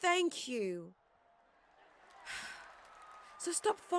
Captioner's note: Mary sighs